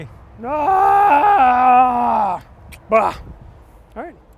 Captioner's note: exclaims